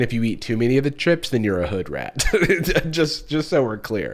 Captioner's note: snickers